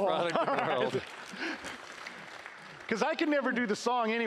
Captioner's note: applause